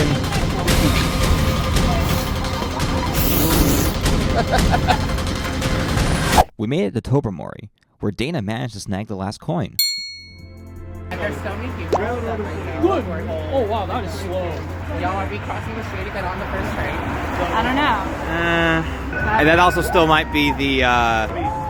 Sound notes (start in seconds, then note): 3.1 blows raspberry; 3.4 laughs